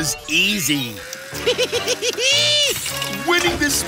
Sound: giggling

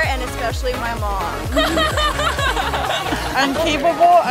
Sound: laughter

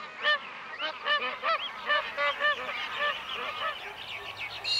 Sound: birds calls

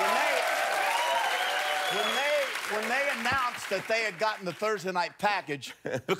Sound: cheers and applause

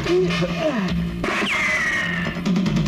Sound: gunshot

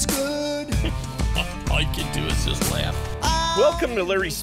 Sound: laughing

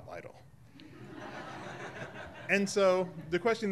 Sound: audience laughing

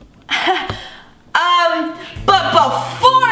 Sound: laughing

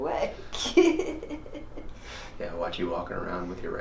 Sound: laughs

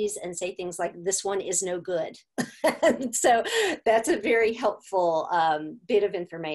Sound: laughter

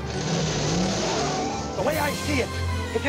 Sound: engine roaring

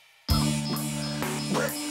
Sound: coughing

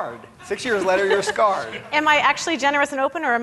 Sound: laughing

